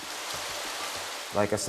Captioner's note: sound of waterfall